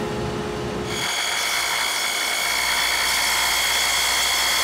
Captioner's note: saw rasping